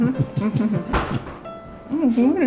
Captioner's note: laughing